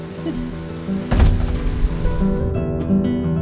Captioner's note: door slams